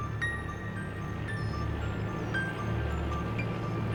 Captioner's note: truck rumbling